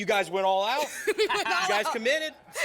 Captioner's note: laugh